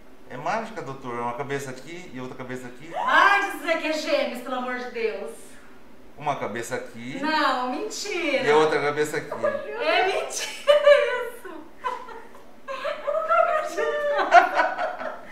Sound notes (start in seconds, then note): 2.9 screams; 12.6 laughs